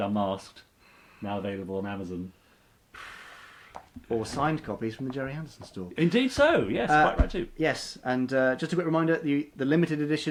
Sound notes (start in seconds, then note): none